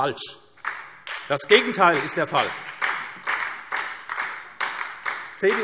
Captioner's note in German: Beifall SPD